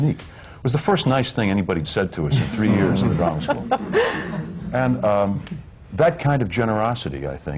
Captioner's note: laughter